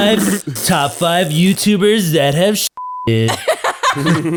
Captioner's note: raspberry blowing; beep; everyone laughing